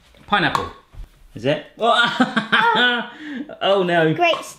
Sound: laughs

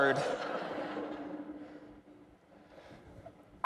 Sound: laughter

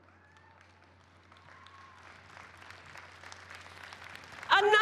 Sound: cheers and applause

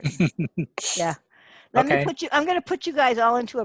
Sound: laughs

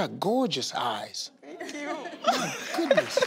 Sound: laughs

